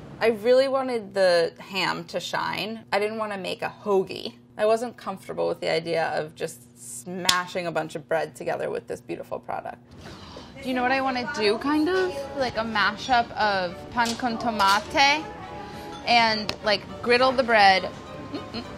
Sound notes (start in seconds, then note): 13.7 speaking in foreign language; 18.2 hums